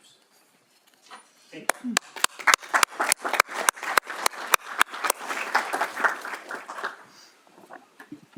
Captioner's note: applause